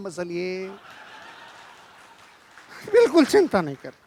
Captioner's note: laughing